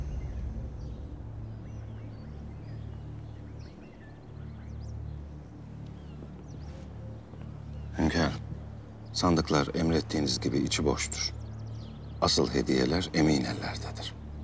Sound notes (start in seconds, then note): 1.3 birds chirping noises